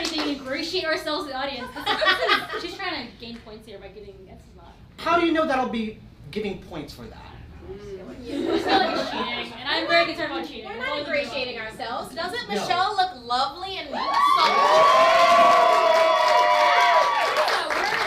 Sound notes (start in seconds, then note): 13.9 cheering